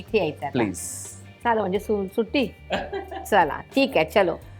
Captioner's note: laughs